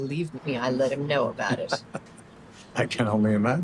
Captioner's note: Christopher laughs